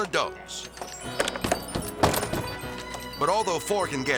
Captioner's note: door impacts pound; door latch clicking